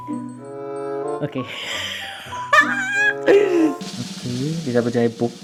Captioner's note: laugh